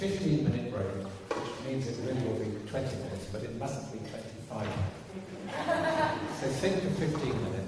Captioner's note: laughter